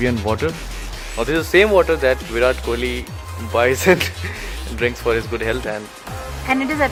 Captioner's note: chuckles